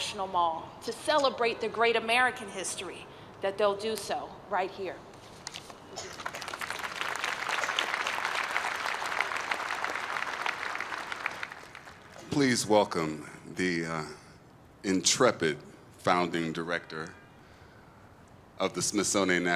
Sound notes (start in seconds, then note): 11.3 applause